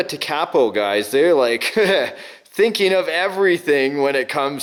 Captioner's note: laughs